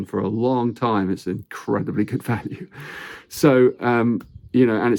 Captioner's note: chuckles